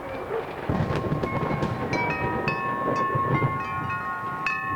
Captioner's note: thunder rumbles